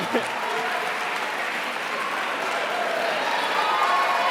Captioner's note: cheering